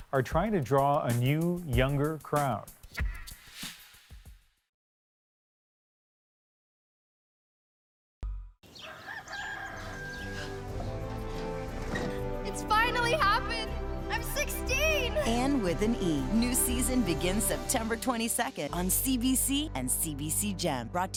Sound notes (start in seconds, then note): 8.7 rooster crowing; 11.0 window squeaking